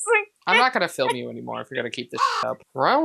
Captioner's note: caw